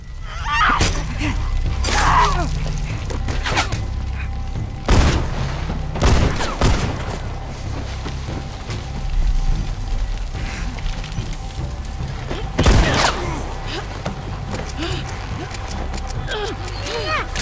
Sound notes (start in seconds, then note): 3.2 arrow flying; 5.9 gunshots; 12.6 gunshot; 14.6 revolver clicking